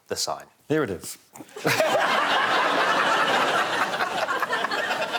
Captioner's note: laughter